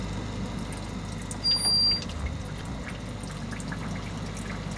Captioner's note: squeaking